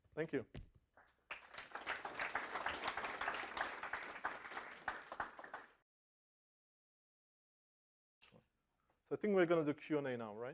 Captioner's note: applause